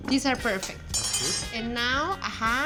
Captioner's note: utensil clatters